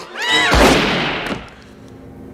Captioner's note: screams; gunshot